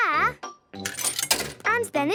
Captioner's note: coin tumbling